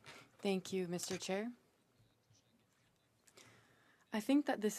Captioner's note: speaking French